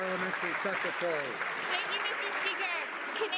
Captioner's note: some Applause